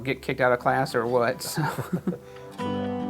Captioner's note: laughs; soft music